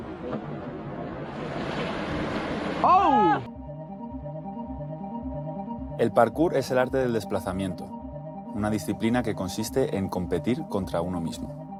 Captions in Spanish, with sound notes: (GRITA) El parkour es el arte del desplazamiento, una disciplina que consiste en competir contra uno mismo.